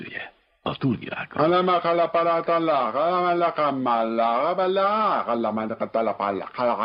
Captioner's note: chanting gibberish